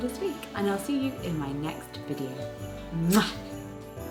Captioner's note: kiss smooching; pleasant instrumental music